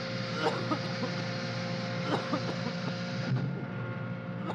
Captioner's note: Chance coughing